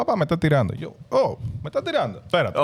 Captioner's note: speaking In Foreign Language